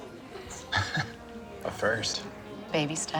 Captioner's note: chuckles